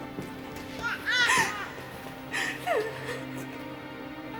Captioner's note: baby cries